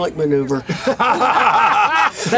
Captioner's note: laughter